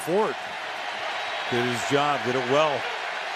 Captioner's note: cheering